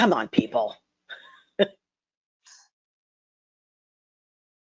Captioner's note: laughs